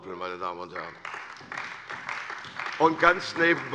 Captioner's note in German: Beifall bei der CDU und dem BÜNDNIS 90/DIE GRÜNEN